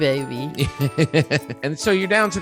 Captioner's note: laughing